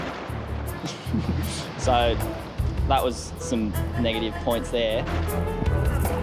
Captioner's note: laughs